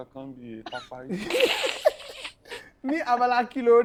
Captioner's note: everyone laughs